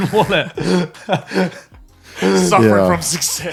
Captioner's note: laughing